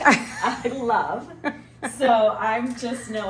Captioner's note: laughing; laughs